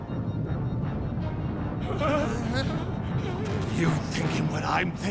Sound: rumbling; whimpering

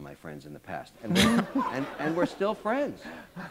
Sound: laughter

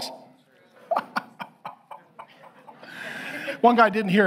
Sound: laughs

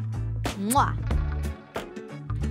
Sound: kiss

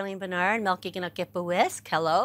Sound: non-english speech

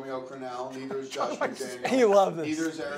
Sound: laughs

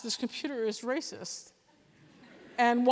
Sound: laughter

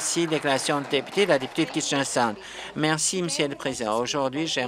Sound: some Applause

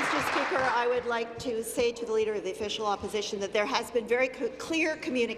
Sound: applause

